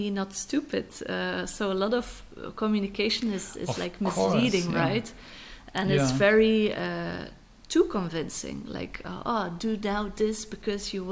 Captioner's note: laughs